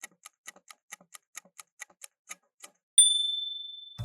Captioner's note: timer ticking